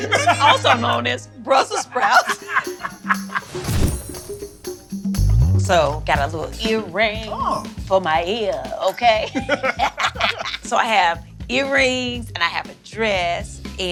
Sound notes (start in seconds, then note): 0.0 laughs; 1.7 both laugh; 9.0 both laugh